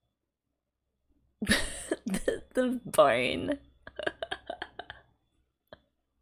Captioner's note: laughs